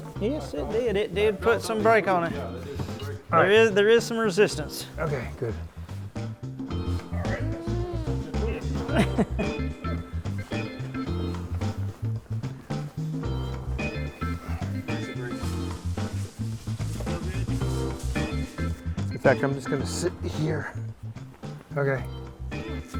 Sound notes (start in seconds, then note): 6.5 bright upbeat music; 7.1 laughing softly